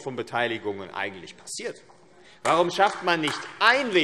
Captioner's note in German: Beifall AfD